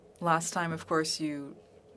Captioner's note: speaking French